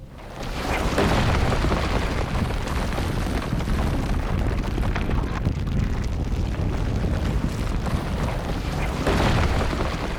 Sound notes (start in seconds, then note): 0.5 ground rumbling